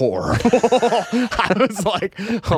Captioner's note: laughing